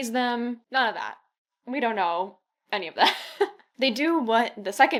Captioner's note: laughs